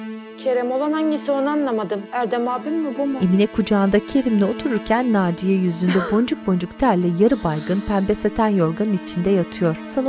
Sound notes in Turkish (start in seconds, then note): 5.8 Öksürme sesi